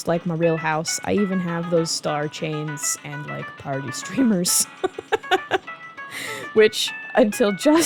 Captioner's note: laughing